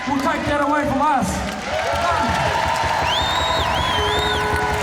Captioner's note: crowd cheering